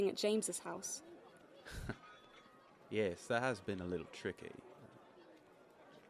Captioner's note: Sirius lets out a breath of laughter